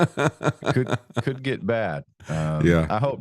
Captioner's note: both Laughing